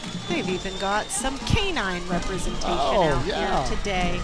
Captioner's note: horn honking